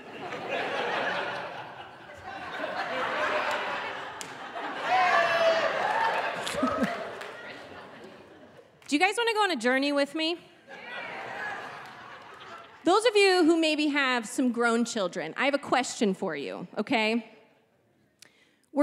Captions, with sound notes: (audience laughing) (audience member exclaiming) Do you guys wanna go on a journey with me? - Yeah. - Those of you who maybe have some grown children, I have a question for you, okay?